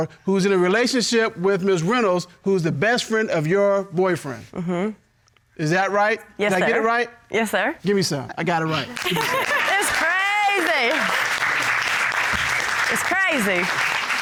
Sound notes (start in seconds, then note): 8.8 laughs; 11.3 audience applauds